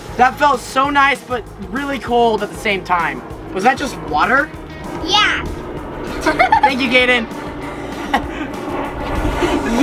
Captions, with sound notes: Oh, that felt so nice but really cold at the same time. Was that just water? - Yeah! (laughing) - Thank you, Gaiden. (laughing)